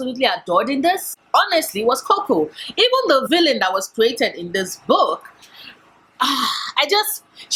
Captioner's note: sigh